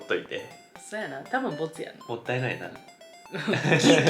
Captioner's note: laughter